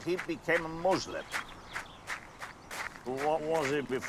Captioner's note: steps crunching on pebbles